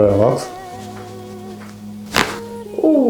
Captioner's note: crunch